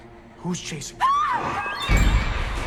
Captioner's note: Elaine screams; sinister music